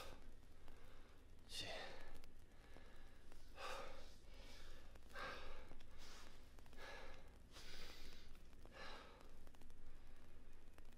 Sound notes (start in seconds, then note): 3.9 Ezra panting